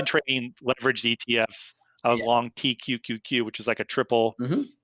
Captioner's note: murmurs